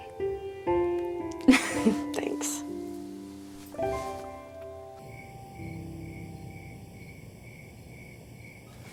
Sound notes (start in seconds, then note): 1.4 Maddie chuckles; 5.1 insects chirping